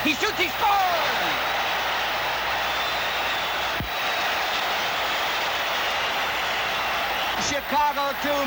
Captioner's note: crowd cheers